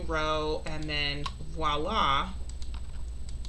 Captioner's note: speaking in foreign language; mouse clicking